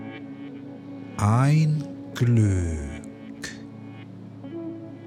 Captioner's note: german